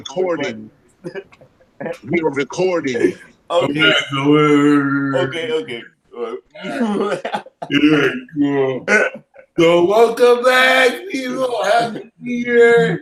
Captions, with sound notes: - People recording. We were recording. (chuckles) - Lateef McLeod. - Okay, okay. (chuckles) - Welcome back people, happy new year.